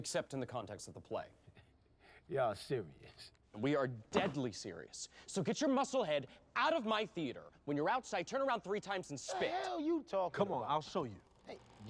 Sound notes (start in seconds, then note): 2.2 chuckles